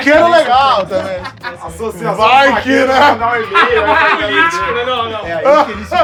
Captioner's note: todos falam juntos